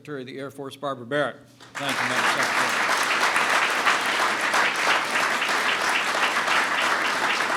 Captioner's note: applause